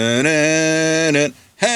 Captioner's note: humming